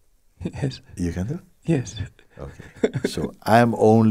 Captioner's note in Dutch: lacht